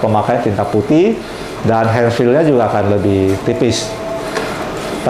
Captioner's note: printer machine sound